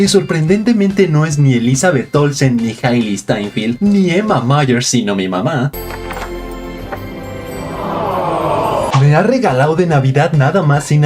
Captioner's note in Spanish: ahhh